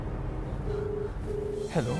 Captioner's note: phone ringing